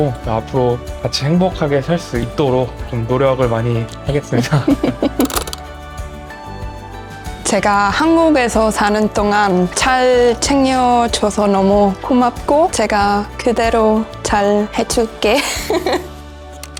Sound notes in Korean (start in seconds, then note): 5.1 카메라 셔터음